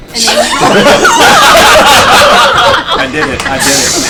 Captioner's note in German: Gelächter